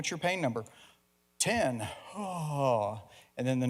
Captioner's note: yawn